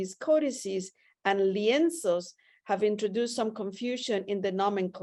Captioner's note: spanish